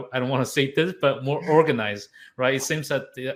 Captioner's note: chuckling